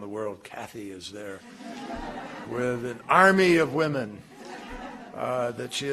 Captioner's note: laughter